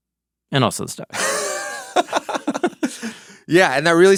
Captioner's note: person laughing